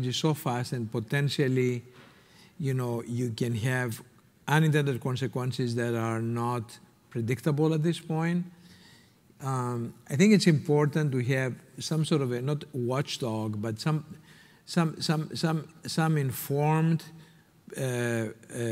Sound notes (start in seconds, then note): none